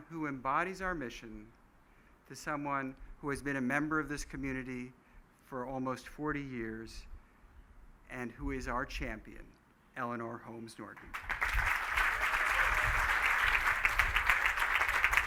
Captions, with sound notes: who embodies our mission, to someone who has been a member of this community for almost 40 years, and who is our champion, Eleanor Holmes Norton. (applause)